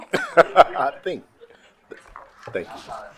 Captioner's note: group laughing